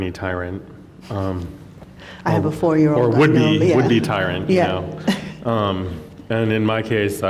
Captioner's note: chuckles